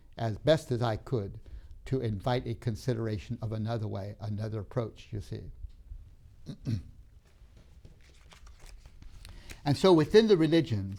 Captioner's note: clears throat